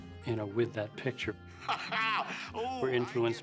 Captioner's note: laughing